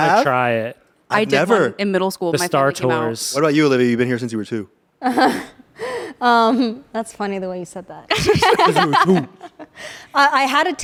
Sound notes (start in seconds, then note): 5.0 laughs; 8.1 everyone laughs